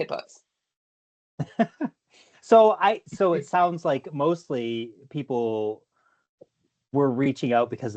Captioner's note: laughs